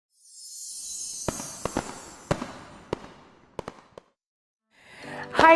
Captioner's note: twinkling and firework bangs